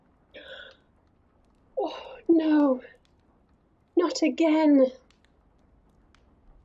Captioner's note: gasps